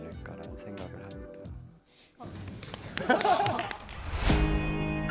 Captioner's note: applause